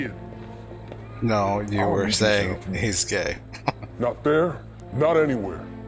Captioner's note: chuckling